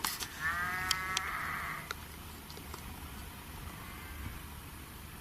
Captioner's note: sheep bleating